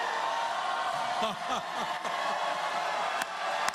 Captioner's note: cheers and applause